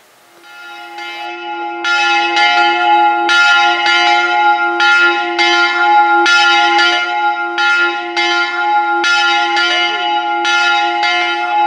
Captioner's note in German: Glockenläuten